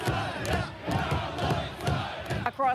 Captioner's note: chanting